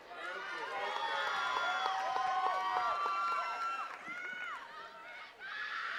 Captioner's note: attendees cheering and clapping